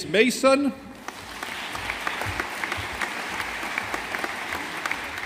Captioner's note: audience applauding